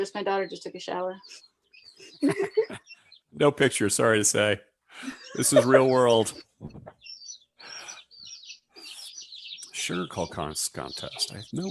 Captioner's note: laughs